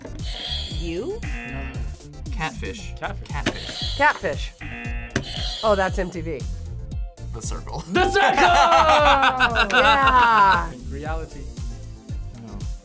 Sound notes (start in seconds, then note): 1.2 buzzer; 1.2 buzzer rings; 4.6 buzzer; 4.6 buzzer rings; 7.8 laughs